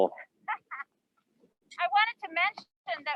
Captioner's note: laughs